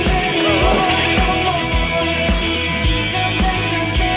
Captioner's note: suddenly bursts out laughing